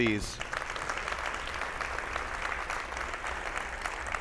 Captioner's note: attendees applauding